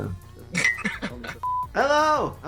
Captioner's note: laughing